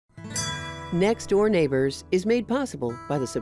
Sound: bell chiming

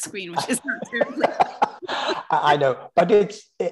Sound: laughs

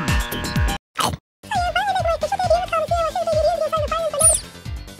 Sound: girl chatter

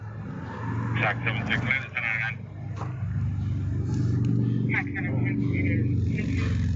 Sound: radio chatter

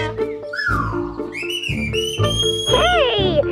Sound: whistling

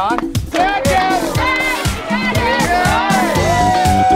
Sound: cheering

